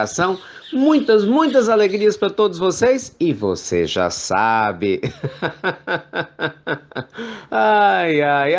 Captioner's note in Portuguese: risos